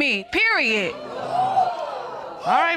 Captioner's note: audience exclaims